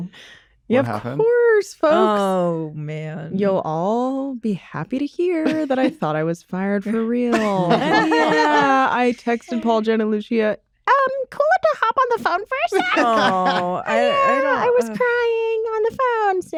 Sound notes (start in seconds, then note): 7.2 laughter